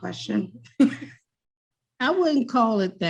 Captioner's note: chuckles